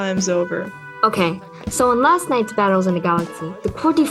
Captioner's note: school ambience. the two walk